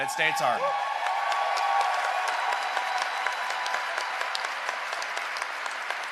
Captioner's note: cheering and applause